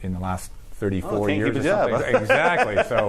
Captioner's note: laughs